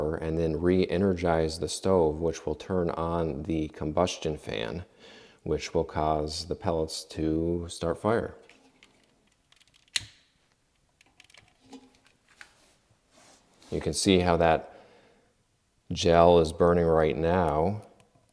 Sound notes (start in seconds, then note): 9.9 lighter clicks